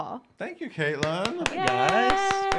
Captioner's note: clapping